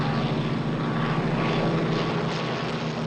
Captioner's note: airplane whirring